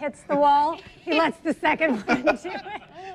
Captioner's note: laughs